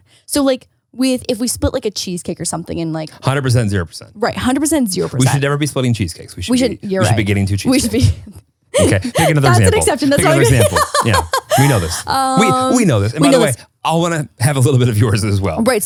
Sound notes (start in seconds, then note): 10.3 laughing